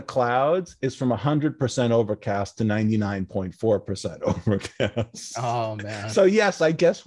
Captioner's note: laughs